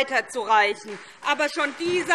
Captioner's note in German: Beifall SPD